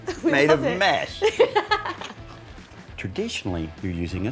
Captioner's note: laughs